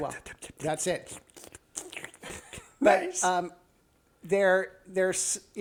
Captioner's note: slurping again; slurping now